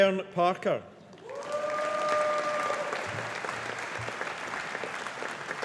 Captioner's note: audience applauding